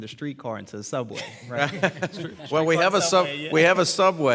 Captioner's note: laughter